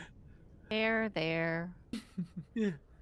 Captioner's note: Cornette laughs